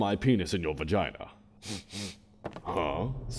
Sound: sniffs

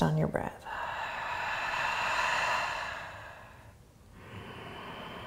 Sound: exhaling; inhaling

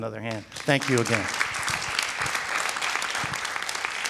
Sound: audience claps

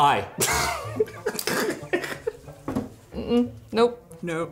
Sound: laughing

